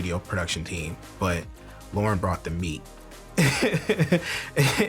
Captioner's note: laughs